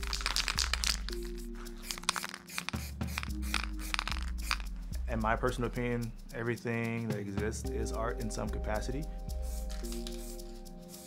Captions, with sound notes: (paint can rattling) (paint hissing) In my personal opinion, everything that exists is art in some capacity.